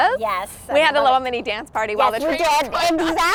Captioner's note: laughs